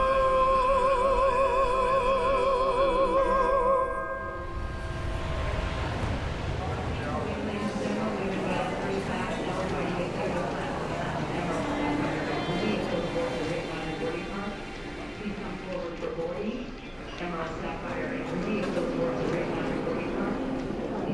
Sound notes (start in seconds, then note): 4.2 air whooshing